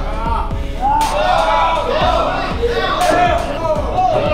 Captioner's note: shouting